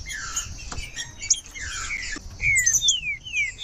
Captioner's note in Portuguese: trinca ferro cantando